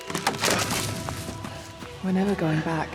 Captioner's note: wood cracking